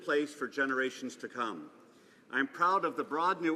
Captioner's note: speaking alternate language